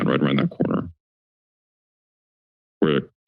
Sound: silence

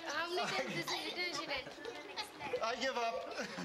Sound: laughs

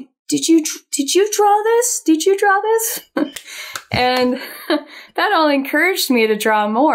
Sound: chuckles

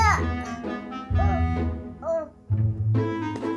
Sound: babbling

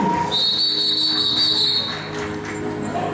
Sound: whistle

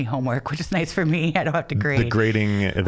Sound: chuckling

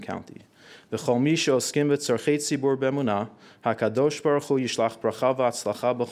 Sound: speaking in foreign language

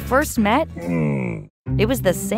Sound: Camelot grunting

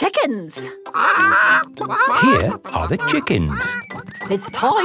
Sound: clucking

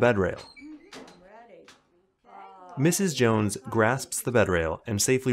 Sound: women chattering

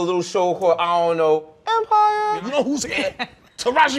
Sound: falsetto

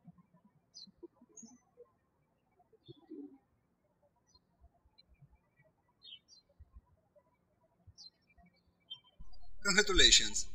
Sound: birds chirping

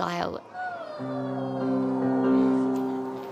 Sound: howling

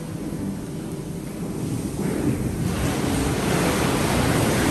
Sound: whirlpool jets bubbling

